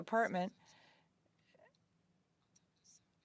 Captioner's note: speaking French